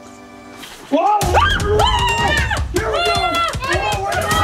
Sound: all screaming

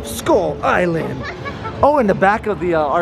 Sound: laughing

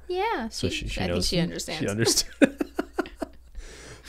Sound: laughs

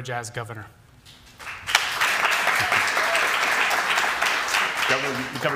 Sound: applause

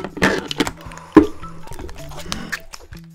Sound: phew

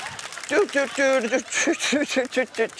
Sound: laughter; hums circus riff

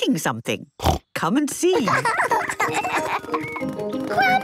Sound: snorting; laughter

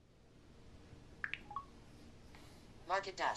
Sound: iPad makes an electronic triple blip

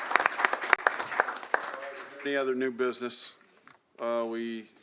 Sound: applause

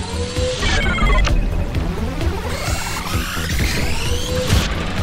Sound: electronics bleeping

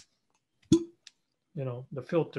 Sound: air pops out

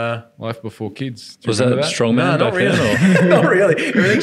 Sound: laughing

